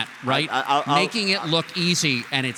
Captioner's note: applause